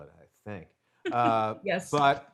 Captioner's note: laughs